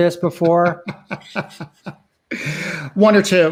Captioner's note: laughing